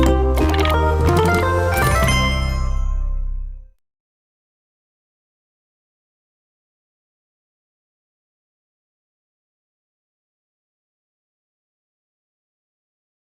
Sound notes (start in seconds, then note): 0.0 Mojang sound